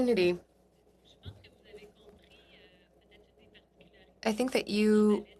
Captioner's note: speaking French